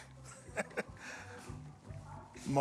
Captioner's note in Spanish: risas